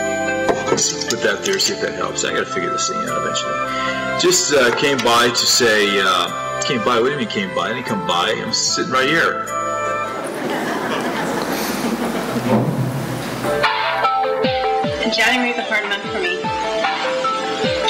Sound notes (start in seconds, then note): 10.1 laughter